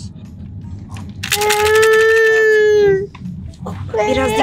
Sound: baby crying sound

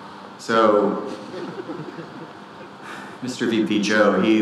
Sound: audience laughing

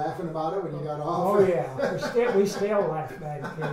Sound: laughs

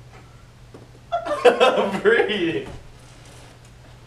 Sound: laughing

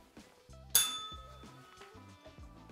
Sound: bell rings

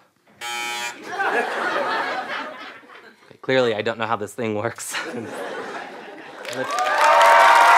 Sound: buzzing

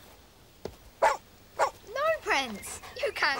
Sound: Prince barking

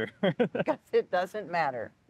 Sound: laughing

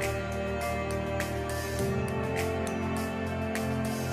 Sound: none

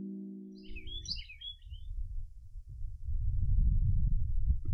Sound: birds Chirping

